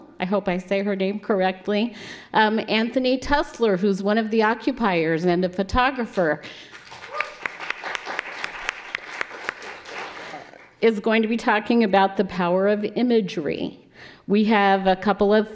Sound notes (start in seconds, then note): 6.6 applause